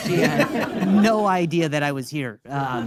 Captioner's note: audience laughing